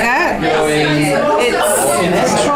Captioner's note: participant chatter